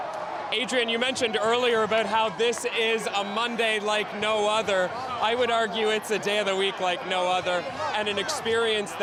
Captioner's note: chanting